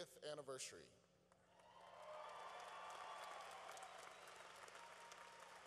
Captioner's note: cheering